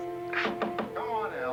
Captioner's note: knocking